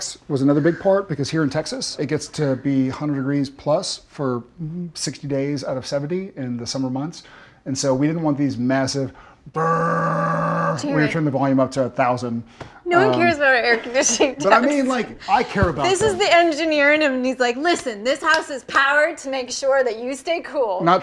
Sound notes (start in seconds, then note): 9.5 Jared growling